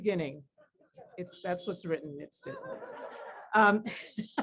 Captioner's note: laughs